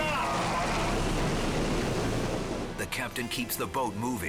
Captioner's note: waves crashing